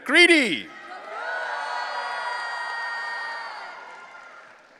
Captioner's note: audience cheering